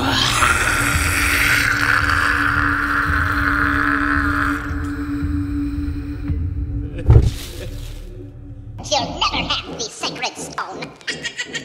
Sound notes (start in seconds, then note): 6.9 Madame Sonnom crying; 10.9 cartoon cackle